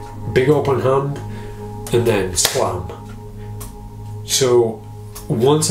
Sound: claps hands together

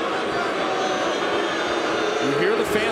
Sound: audience booing

